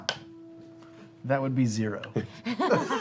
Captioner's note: laughter